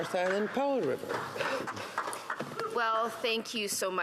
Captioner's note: speaking Indigenous Language